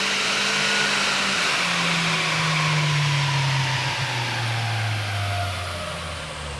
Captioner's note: engine decelerates